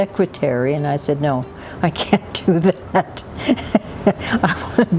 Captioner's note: laughs